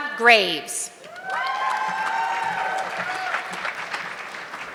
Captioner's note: audience clapping